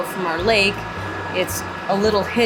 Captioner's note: loud fans whirring